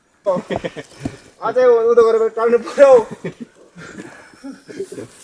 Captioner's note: indistinct conversation